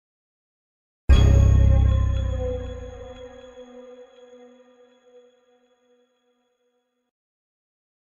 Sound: simply spooky sound

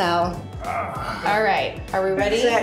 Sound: grunts

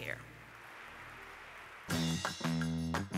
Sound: audience applauding; upbeat music

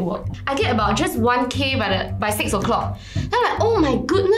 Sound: steps

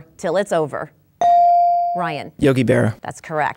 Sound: dinging

